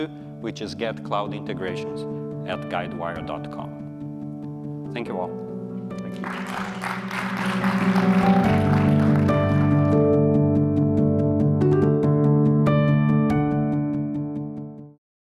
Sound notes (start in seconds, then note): 6.0 applause; 8.5 concluding music